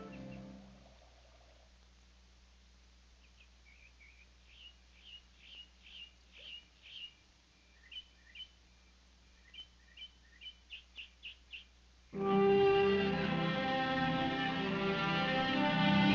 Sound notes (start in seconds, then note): 3.5 birds chirping; 12.1 gentle instrumental music